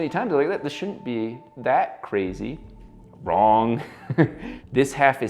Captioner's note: laughs